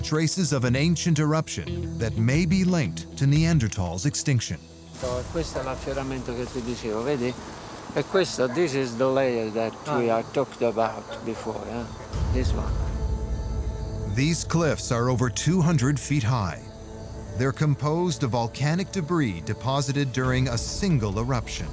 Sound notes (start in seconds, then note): 5.7 speaking Italian